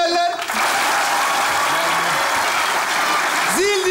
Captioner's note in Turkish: Alkış ve ıslık sesleri